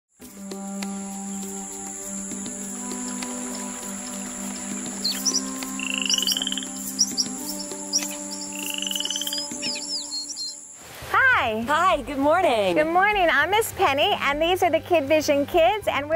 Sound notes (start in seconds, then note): 4.7 stream babbling; 6.1 birds calling; 8.9 amphibians croaking